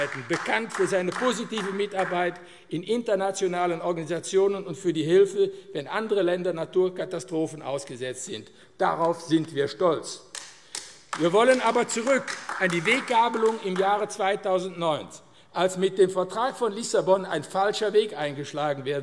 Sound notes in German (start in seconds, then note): 10.3 Beifall AfD